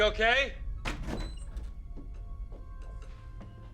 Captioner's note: door open close